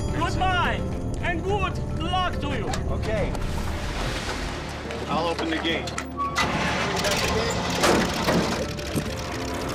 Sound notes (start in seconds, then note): 6.4 engine turns over